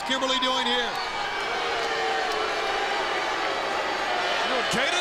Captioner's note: crowd boos